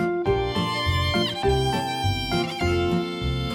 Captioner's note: emphatic